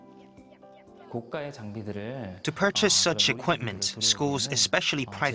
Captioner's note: Korean